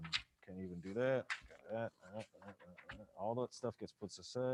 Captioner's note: murmuring